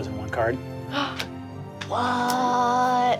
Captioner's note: gasps